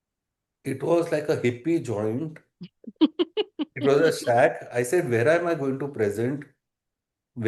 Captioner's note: laughter